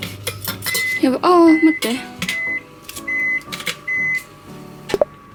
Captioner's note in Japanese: オーブンの加熱が終わった音